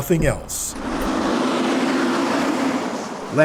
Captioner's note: fire truck noise